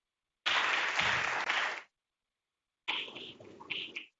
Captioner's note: applause